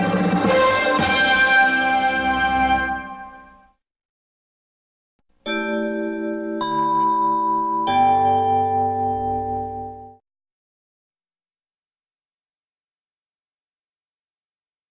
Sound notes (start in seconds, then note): 5.4 chime plays; 10.7 silence